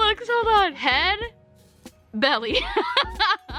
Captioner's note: laughs